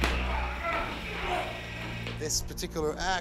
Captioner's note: grunting